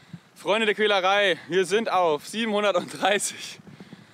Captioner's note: laughs